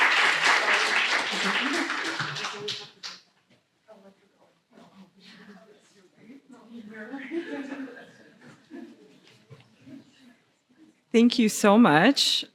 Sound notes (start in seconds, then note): 6.9 laughter